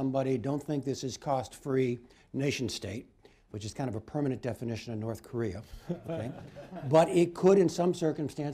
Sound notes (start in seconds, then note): 5.8 laughter